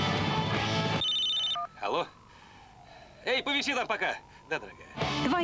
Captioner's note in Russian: звонок